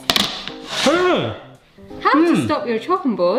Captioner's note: board sliding